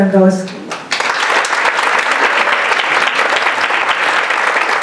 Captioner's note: audience applauding